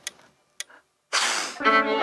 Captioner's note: inhaling through the nose